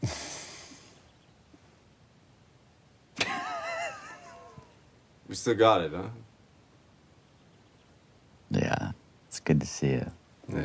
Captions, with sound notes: (Lance chuckling) (Dayne laughing) - We still got it, huh? - Yeah. It's good to see you.